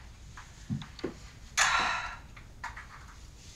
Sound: sighs

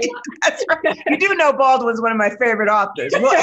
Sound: laughter

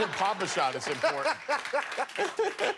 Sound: laughter

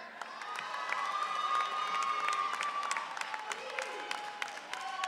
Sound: audience cheering

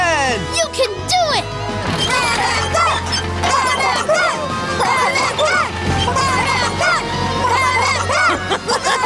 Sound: chanting "Darrington!"

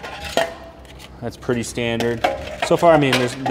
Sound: grill parts clunking

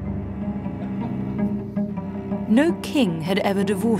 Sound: tense brooding music; men laugh

